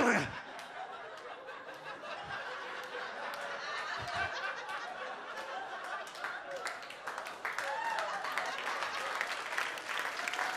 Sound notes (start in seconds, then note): 0.9 audience laughs and claps